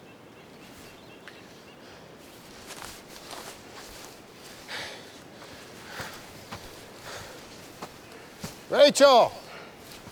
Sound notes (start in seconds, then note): 4.8 Preston panting